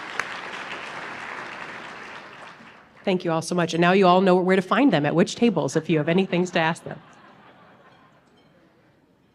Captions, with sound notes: [APPLAUSE] Thank you all so much. Now you all know where to find them at which tables, if you have any things to ask them.